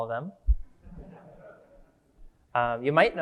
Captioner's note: audience laughing